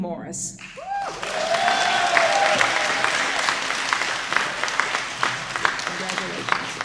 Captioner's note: applause